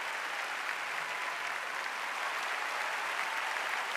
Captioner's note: audience applauding; audience cheering